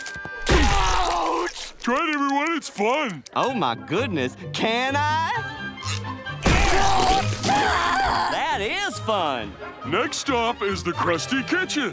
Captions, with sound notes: Ouch! Try it, everyone, it's fun. Oh, my goodness, can I? [screaming] That is fun. Next stop is the Krusty kitchen.